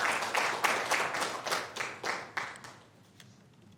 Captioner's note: applause